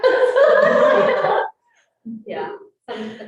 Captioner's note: all laughing